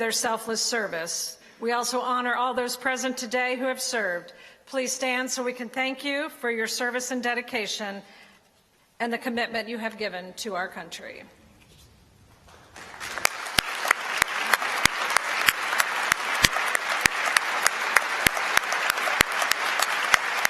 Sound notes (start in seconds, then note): 12.4 applause